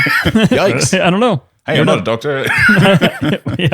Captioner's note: laughter